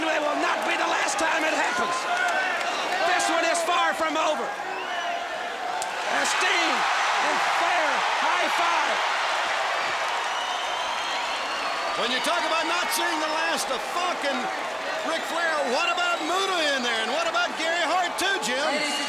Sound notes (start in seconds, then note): 5.4 crowd chatter; 9.6 crowd cheering